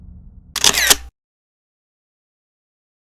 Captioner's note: whoosh; camera Flash